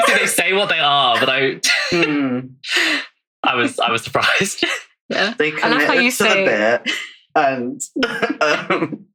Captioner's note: laughs